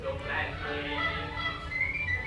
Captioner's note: honking; whistling